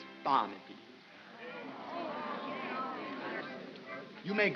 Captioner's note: crowd murmurs